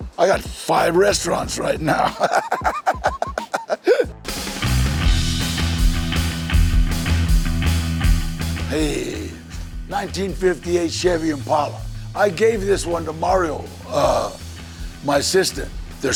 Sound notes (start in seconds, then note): 2.5 laughs; 4.3 upbeat music